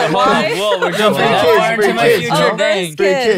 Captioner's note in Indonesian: tertawa